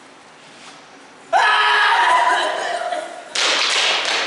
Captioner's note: AGAMEMNON screams again